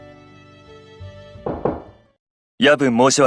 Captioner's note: knock knock